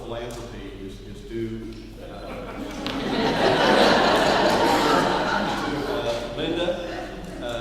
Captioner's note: laughing